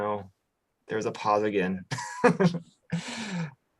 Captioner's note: laughs